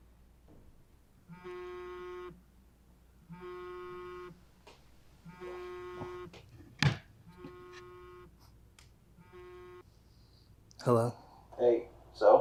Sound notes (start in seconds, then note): 1.9 phone buzzing